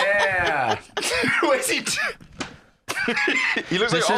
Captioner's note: laughing; laughs